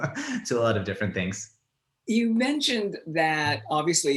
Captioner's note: laughs